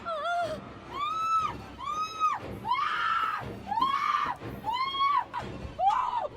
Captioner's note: Julie screams in terror; Julie can't stop screaming as she sees the killer